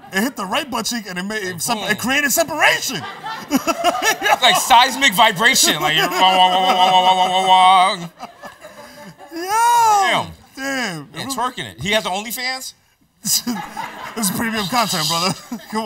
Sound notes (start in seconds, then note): 2.7 laughter; 13.2 laughs; 13.2 laughter